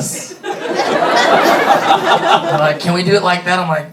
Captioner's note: audience laughing